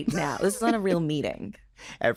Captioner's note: chuckles